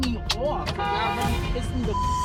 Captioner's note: car horn honking